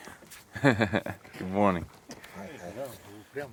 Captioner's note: laughs